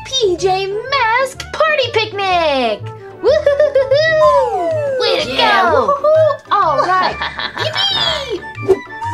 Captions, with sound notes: PJ Mask Party Picnic. Woo- hoo- hoo-hoo -hoo! (everyone cheers)